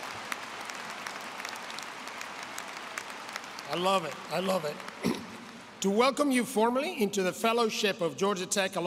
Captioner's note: applause